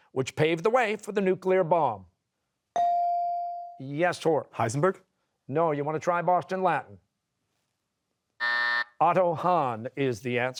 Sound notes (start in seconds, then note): 8.4 buzzer